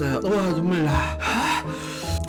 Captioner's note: exhale; inhale